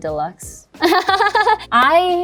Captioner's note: laughs